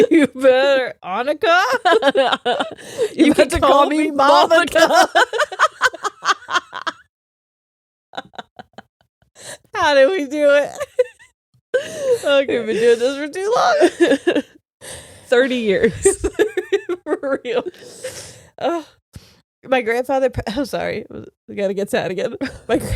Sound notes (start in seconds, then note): 5.5 laughing